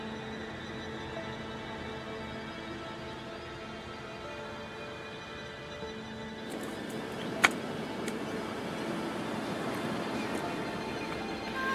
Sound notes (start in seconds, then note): 6.4 distant waves crashing